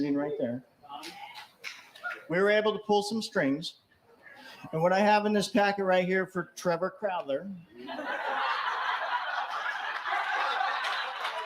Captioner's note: laughter